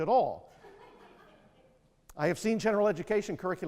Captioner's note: audience laughing